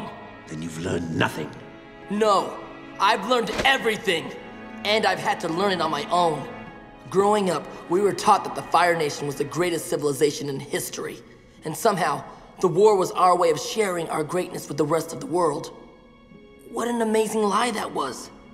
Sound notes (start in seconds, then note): none